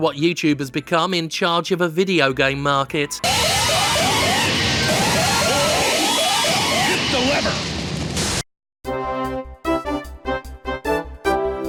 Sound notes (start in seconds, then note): 3.2 alarms blares; 8.8 upbeat music